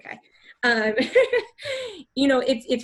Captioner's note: laughs